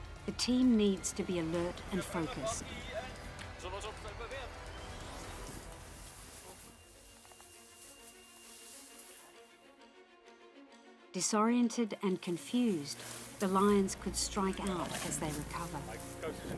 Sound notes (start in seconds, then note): 2.6 speaking foreign language; 5.4 dramatic music; 16.4 dramatic music